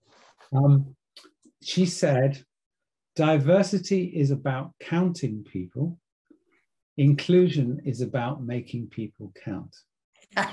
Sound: laugh

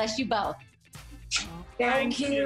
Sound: smooches

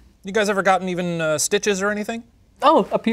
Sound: none

